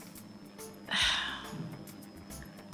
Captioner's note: sighs